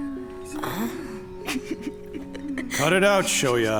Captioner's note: Shoya snickering